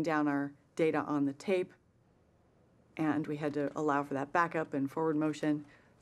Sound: none

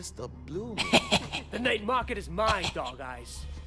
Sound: chuckling

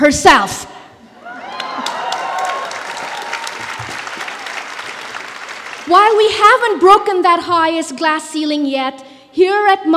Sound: applause

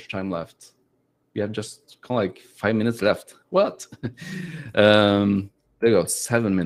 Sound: laughs

